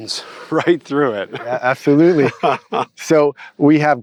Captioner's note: laughs